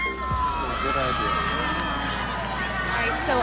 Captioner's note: crowd cheering